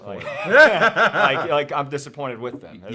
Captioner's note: both laughing